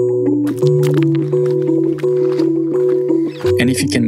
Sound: rocks crunching

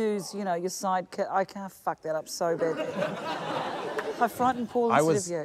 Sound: laughter

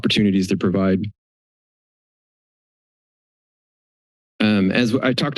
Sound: silence

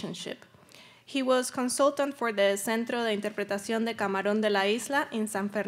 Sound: speaking Spanish

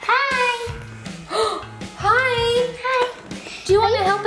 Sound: gasps

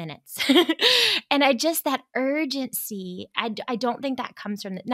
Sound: giggles

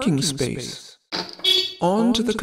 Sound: beep

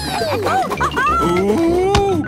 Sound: laughing

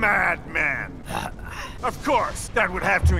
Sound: grunts in disbelief

